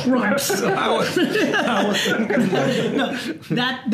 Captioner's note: laugh